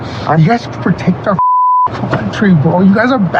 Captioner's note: beep